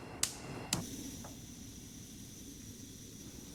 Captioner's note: flame ignites; gas stove starter clicks